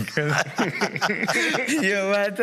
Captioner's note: laughs